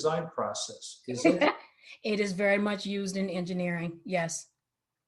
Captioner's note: laughs